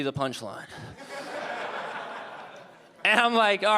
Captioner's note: audience laughing